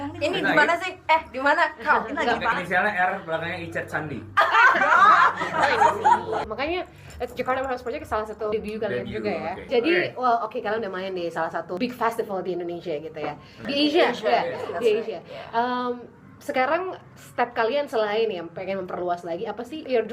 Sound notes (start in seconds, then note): 4.4 laughs